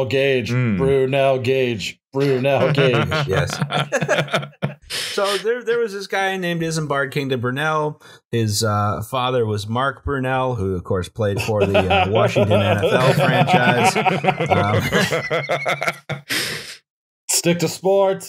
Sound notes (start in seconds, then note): 2.2 laughter; 14.2 laughter